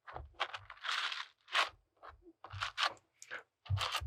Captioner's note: Squish